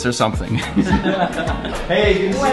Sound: everyone laughing

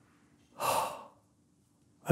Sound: exhales sharply

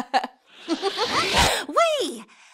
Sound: laughing; dramatic whooshing

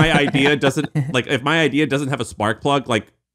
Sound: laughing

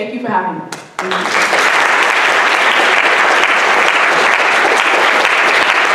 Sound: audience applauding

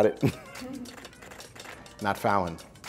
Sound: camera clicking

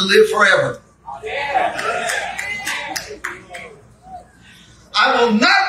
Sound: congregation amens

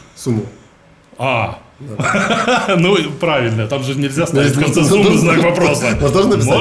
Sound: laughing

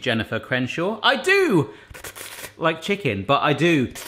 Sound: slurping

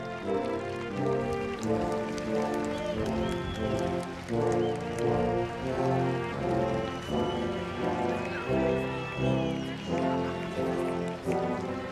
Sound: applause

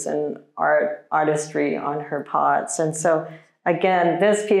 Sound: none

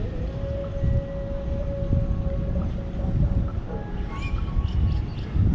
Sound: birds chirping and distant singing

